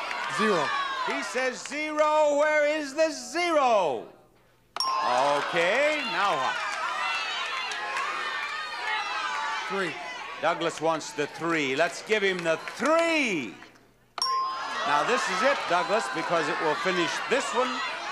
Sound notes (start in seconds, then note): 4.8 bell chimes; 6.4 audience murmuring; 14.2 bell chimes